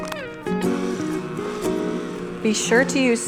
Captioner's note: light music; mixer whirring